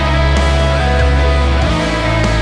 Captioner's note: scream